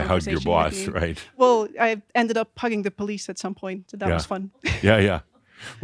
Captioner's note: she chuckles